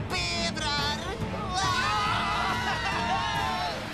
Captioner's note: screaming